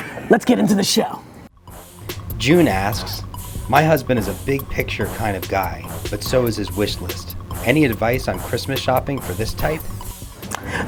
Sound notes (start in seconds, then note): 2.7 voiceover